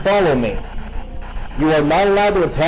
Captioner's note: static buzzing